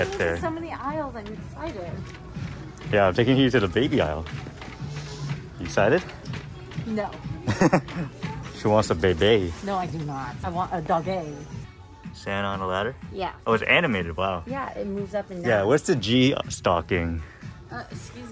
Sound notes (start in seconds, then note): 7.4 laughs